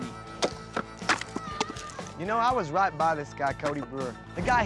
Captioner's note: chopping